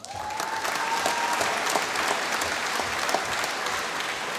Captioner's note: applause